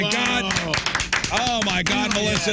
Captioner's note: clapping